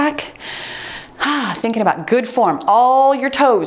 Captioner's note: timer beeps